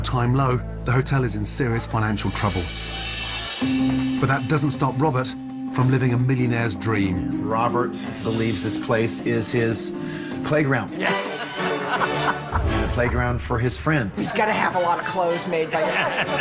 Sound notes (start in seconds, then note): 10.7 royal music; 10.9 laughing